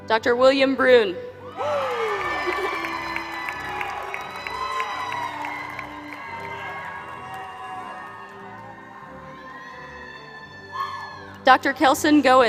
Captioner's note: applause